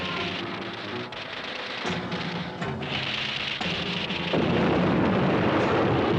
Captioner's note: rapid gunshots; guns thudding